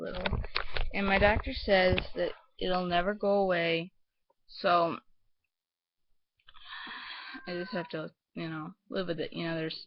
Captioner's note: exhale